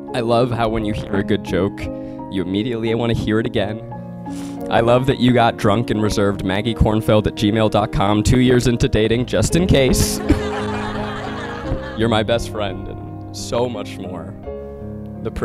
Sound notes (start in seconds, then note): 9.9 audience laughing